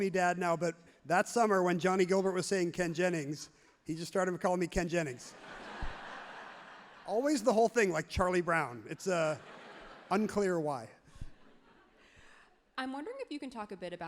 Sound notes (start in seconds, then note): 5.2 crowd laughs happily; 8.9 crowd laughs loudly